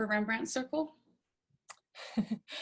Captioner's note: chuckles